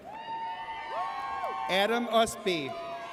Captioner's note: audience cheers